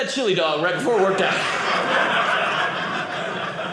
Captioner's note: audience laughing